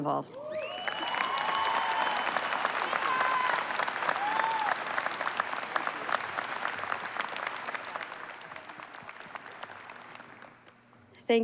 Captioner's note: applause And Cheering